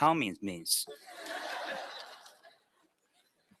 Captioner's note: laughter